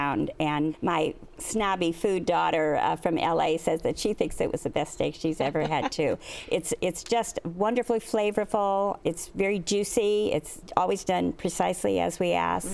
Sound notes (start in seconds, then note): 5.4 laughs